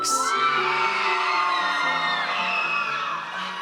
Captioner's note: audience cheers